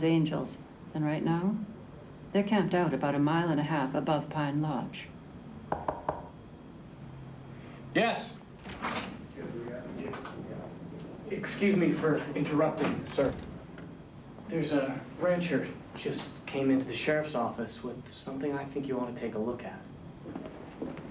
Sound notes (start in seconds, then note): 5.7 knocking at door